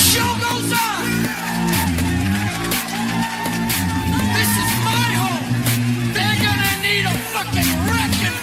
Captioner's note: Aplauze